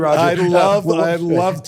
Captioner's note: laughs